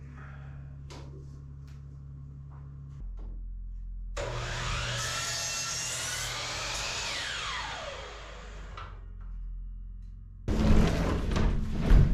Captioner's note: loud whirring